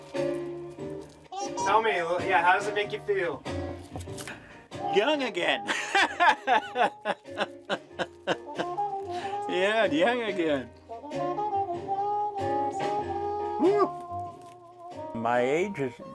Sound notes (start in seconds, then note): 9.8 laughs